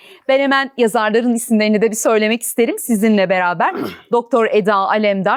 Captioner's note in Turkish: boğazını temizler